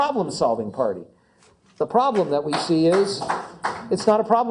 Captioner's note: applause